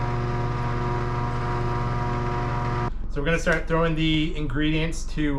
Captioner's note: motor whirring